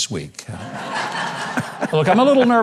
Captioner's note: audience laughing